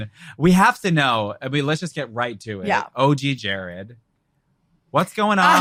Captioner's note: laughs